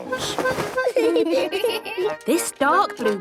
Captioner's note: giggling